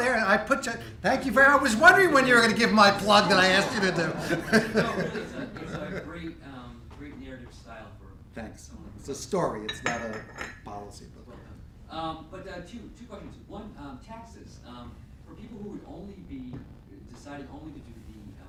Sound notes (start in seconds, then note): 2.9 laughing